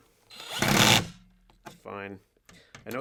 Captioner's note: power drill whirring